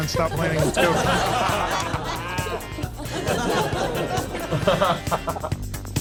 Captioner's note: all laughing